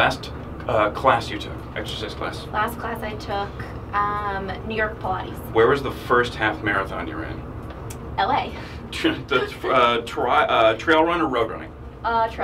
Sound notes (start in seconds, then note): 9.0 laughs